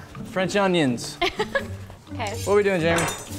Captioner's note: laughs